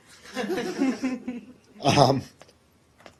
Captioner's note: laughter